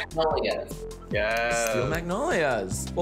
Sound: snapping

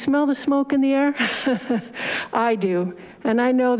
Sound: laughing

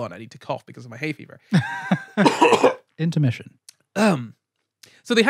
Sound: coughs

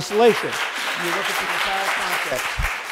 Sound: audience applauds

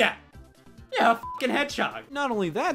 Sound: beep

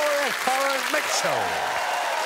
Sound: audience applauding

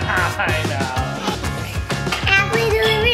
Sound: laughing

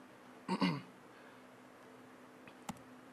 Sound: coughs

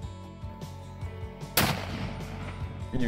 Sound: gun shot

